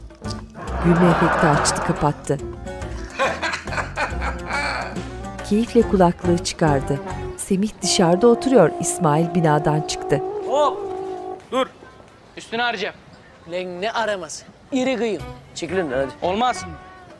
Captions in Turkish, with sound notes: (Kahkaha efekti) (Gülme sesleri) Hop dur! Üstünü arayacağım! Ulan ne araması iri kıyım! -Çekil önümden hadi! -Olmaz!